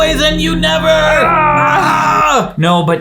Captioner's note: groaning